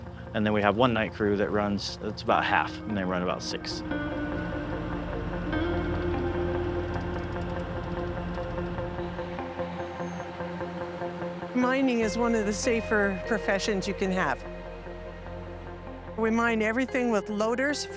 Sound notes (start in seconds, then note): 5.7 engine humming; 5.7 gentle music